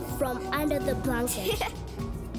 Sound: Sema laughs

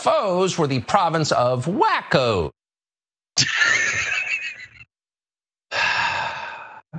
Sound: laugh

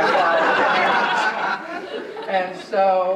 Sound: audience laughing

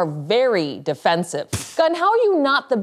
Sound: pfft

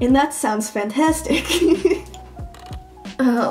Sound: laughing

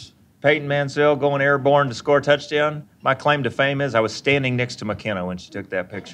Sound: laughing

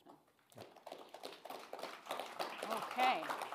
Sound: audience applauding

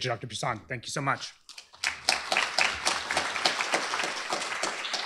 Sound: applause

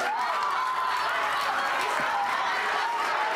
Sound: crowd cheers

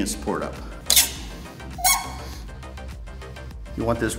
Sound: press squeaks as its released

